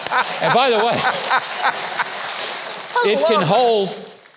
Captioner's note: audience applauding; laughs; laughing